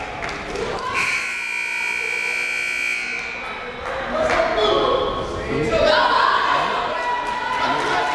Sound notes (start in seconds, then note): 0.9 timer buzzes